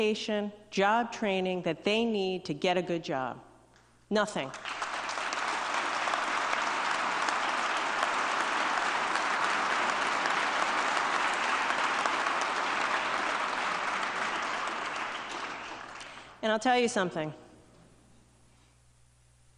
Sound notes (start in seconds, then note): 12.2 applause